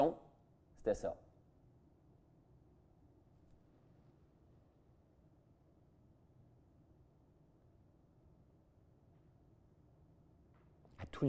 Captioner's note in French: Silence